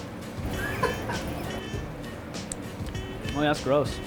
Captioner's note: laughing